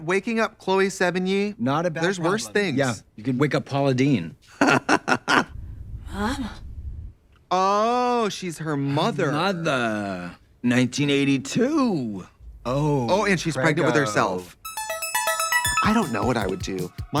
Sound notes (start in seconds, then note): 4.5 Trixie laughing